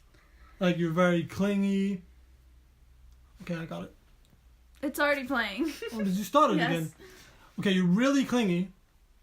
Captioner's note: laughing